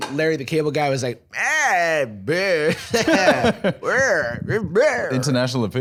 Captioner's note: vague Larry the Cable Guy sounds